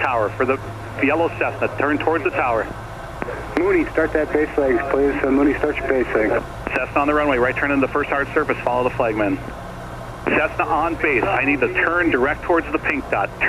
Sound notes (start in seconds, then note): 3.5 air traffic control drowned out by static